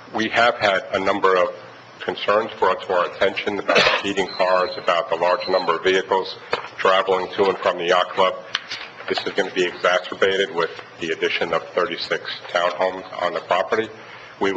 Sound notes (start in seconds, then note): 6.0 alarm beeps